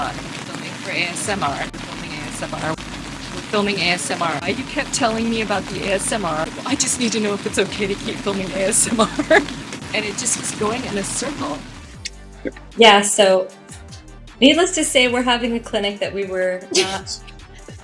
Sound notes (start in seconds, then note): 6.9 doing Seth-voice